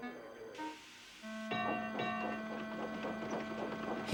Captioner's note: bell dings